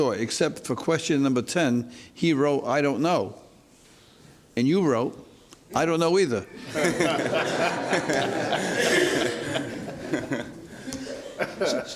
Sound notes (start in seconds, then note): 6.6 laughs